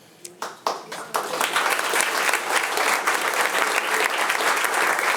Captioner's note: attendees applauding